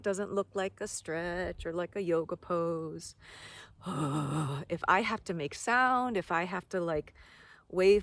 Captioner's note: sigh